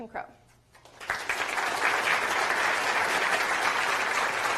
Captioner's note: applause